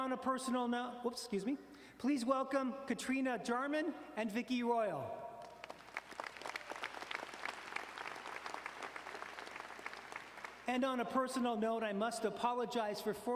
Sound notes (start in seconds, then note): 5.4 audience applauding